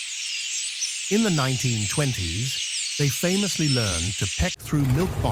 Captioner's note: birds chirping